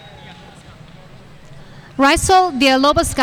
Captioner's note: speaking faintly